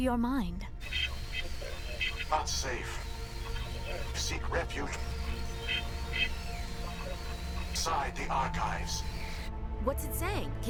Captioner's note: static